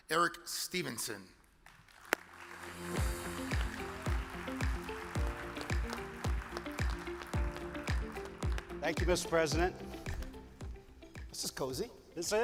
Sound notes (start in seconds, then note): 1.7 audience applause; 2.2 uplifting music